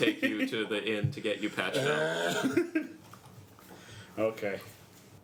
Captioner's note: exhausted sigh